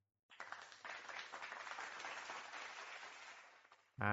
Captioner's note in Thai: ปรบมือ